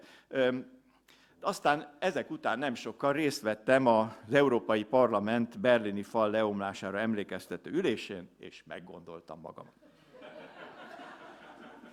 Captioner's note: laughter